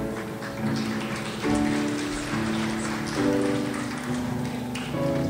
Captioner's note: crowd applauds